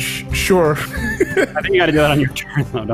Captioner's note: laughs